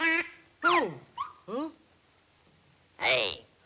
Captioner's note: duck quacks; hat whistles